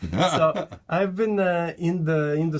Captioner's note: laughs